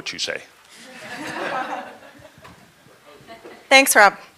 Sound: laughter

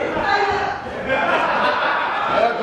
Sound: laughs

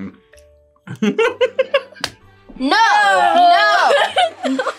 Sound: laughs

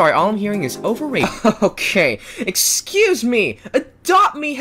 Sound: evil laughter

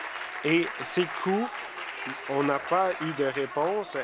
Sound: applause

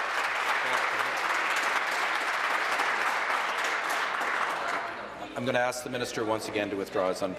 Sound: applause

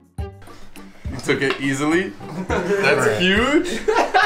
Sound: laughs

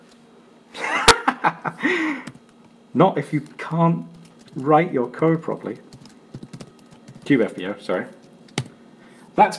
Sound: laughs

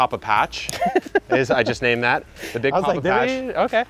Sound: laughing

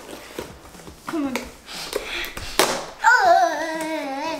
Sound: sniffing

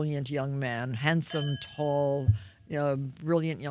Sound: glasses clang

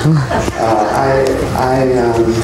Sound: laughter

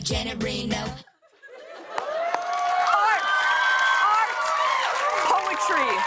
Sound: cheers and applause

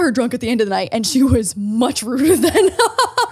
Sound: laughs

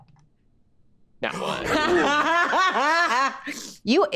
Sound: Erika laughing

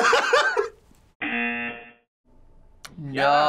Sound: buzzer

